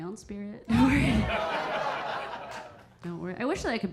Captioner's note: audience laughing